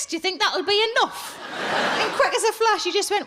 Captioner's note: audience laughs